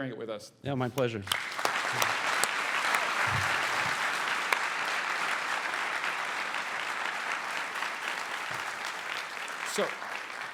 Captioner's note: applause